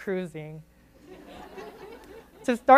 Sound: audience giggles

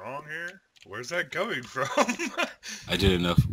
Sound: laughs

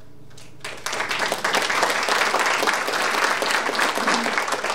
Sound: audience applauding

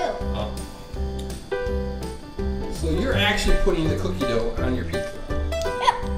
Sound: voiceover

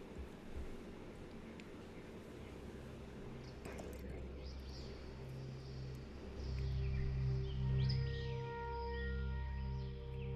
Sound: calming sounds and bird chirps

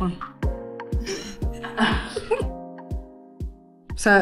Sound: laughing

